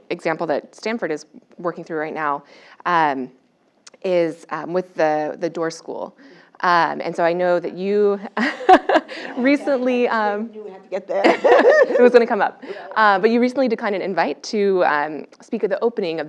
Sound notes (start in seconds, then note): 8.4 laugh; 11.2 laugh